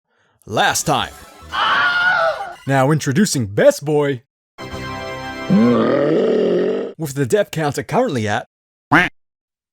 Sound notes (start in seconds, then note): 1.5 scream